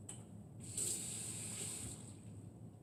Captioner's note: running water